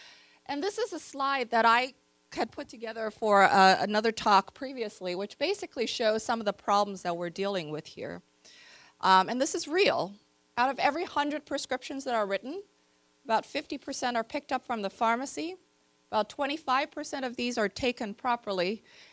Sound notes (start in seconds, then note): none